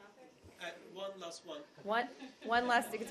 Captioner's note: laughter